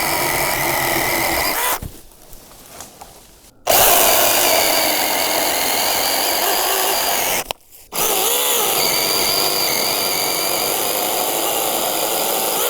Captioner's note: drill whirring